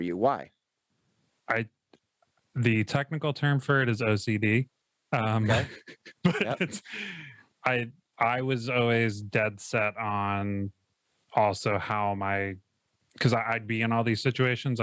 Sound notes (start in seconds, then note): 5.2 laughs